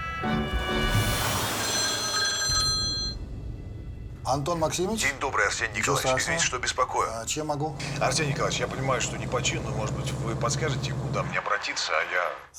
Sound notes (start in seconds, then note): 1.5 phone rings